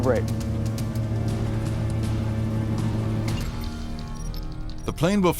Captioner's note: airplane engine roaring